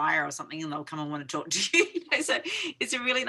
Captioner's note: chuckling